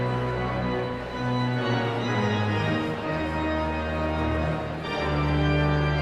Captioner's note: exhilarating organ music continues; audience chattering continues